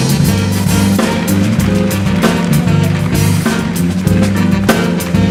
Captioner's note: audience applauding